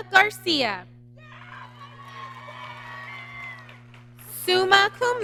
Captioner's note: applause